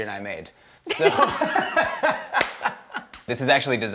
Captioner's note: laughter